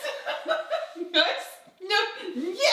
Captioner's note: wife laughing